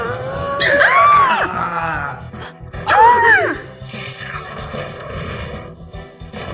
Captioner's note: both gasp